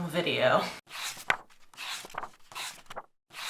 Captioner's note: pages turning